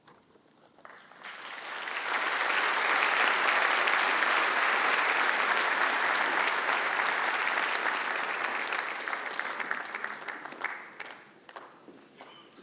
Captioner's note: applause